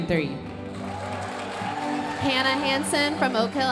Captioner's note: audience cheering and applauding